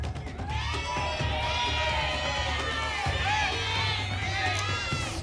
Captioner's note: audience shouting letters